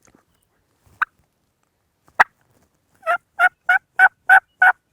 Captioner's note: distant turkey gobbling